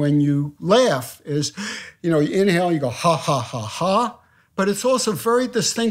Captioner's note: inhales